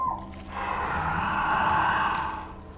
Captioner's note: Sarah and Shane scream; creature lets out death rattle sound